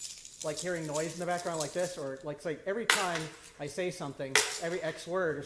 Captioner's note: keys rattling; dropping keys